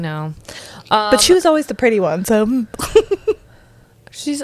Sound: laughs

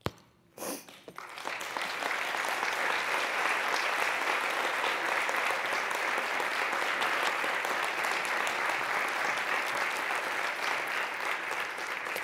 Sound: applause

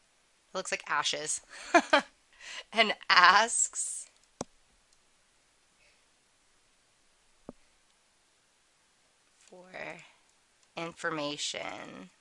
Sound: laughter

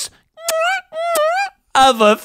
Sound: making kissing sounds

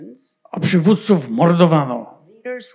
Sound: foreign language

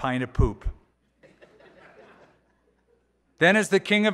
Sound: laughter

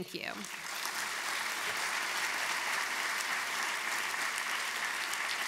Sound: applause

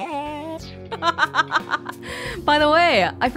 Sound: chuckles

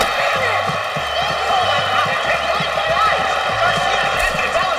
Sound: crowd cheering

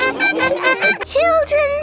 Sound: laughing

